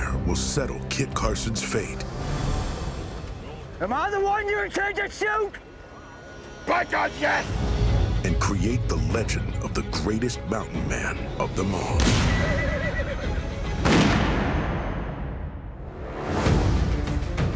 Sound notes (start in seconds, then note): 11.9 gunshot